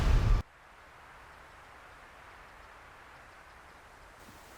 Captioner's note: wind whooshing